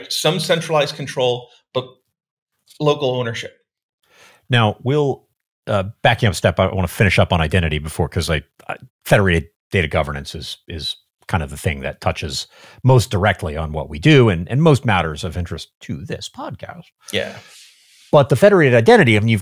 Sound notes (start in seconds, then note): none